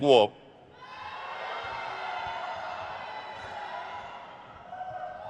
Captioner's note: crowd cheers